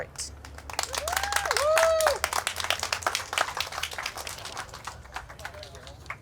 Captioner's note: people applauding